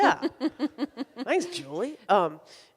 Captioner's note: laughs